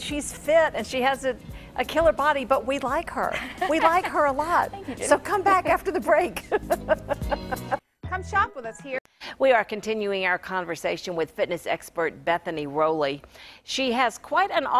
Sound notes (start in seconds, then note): 6.3 laughing